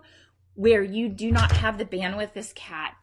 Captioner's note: loud bang